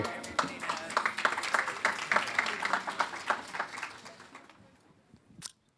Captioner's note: applause